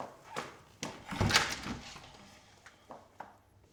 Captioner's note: opening door